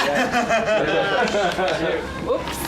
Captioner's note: laughing